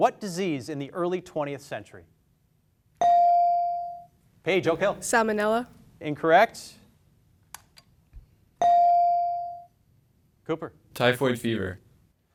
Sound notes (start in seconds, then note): 3.0 beep; 8.7 beep